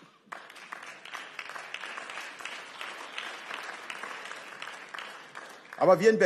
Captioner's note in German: Beifall